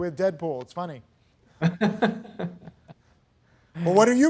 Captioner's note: laughs